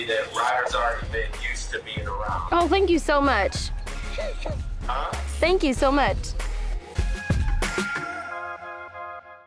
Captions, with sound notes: that Ryder's already been used to being around. - Oh, thank you so much. (laughs) - Huh? - Thank you so much.